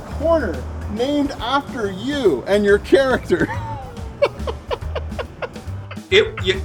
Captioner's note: laughs